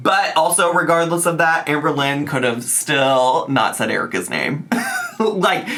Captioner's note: chuckles